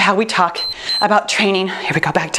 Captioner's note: timer beeps